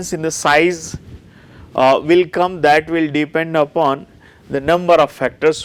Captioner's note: distortion